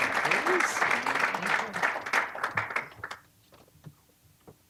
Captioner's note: applause